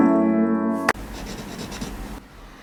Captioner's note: scratchy Pen